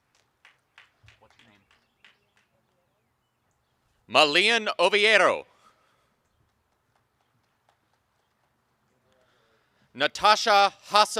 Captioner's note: applause and cheering